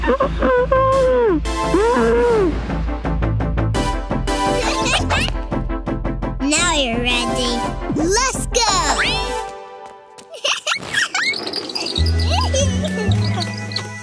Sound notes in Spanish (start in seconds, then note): 0.0 murmura; 4.6 risitas; 10.3 Risas